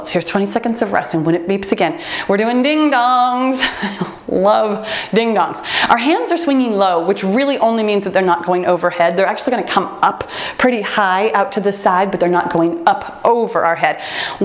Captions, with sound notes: Here's 20 seconds of rest, and when it beeps again, we're doing ding-dongs, (laughs) love, ding-dongs. Our hands are swinging low, which really only means that they're not going overhead. They're actually gonna come up pretty high out to the side, but they're not going up over our head.